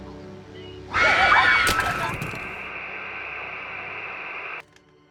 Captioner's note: scream